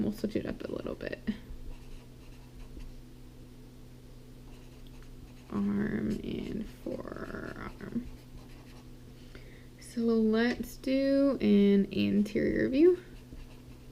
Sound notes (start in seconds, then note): 1.8 pen scratching